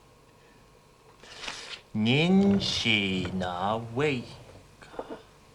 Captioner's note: speaking Chinese